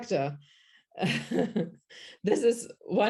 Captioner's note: chuckles